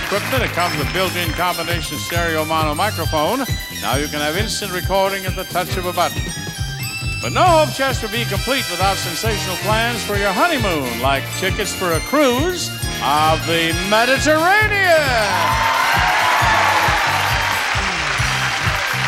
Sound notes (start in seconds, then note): 14.2 audience cheers